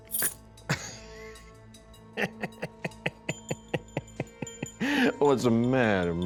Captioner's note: laughter